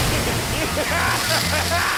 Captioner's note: maniacal laughter